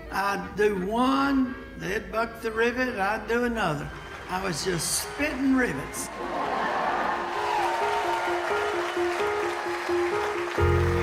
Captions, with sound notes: I'd do one, they'd buck the rivet, I'd do another. I was just spiting rivets. (audience laughing and applauding) (light music)